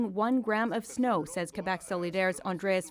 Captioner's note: speaking French